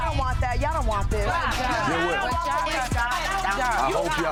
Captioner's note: people chattering